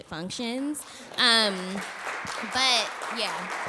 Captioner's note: applause